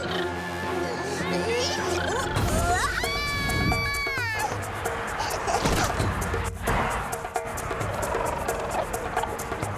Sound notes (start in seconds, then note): 2.4 screaming; 5.2 giggling; 7.8 chittering